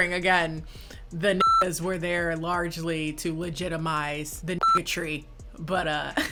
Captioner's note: beep